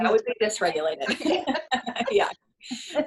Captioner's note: both laughing